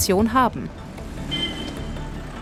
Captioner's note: horns, traffic noise